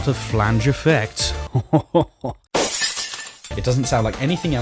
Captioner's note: fake laughs; smash